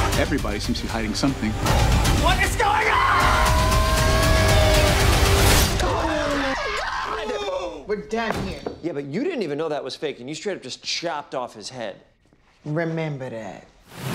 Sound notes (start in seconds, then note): 5.8 screaming